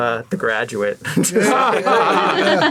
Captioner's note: laughing